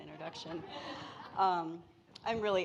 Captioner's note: audience laughing